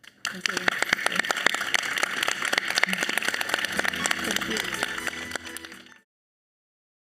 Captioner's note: audience and panelists applauding